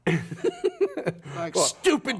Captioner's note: laughs